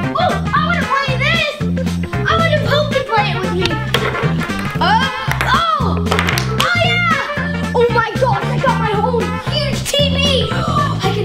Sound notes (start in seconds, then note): 6.1 claps; 10.4 gasps